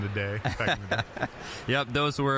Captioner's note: both laughing